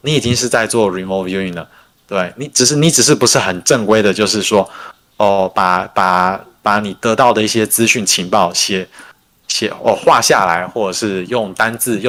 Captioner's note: non-english speech